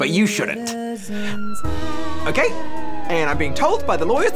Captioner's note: sirens wail